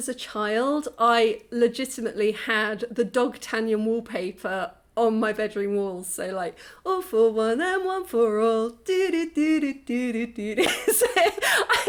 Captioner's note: humming; laughing